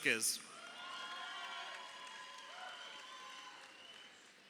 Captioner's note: crowd cheering